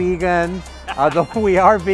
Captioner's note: laughs